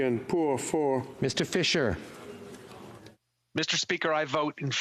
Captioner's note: speaking FRENCH